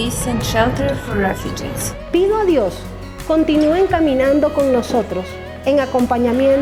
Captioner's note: partner speaking in foreign language